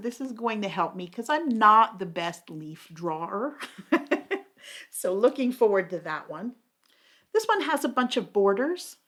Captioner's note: laughs